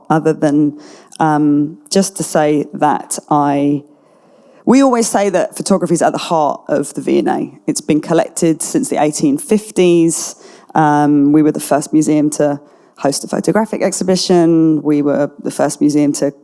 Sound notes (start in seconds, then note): none